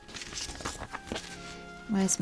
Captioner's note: paper rustles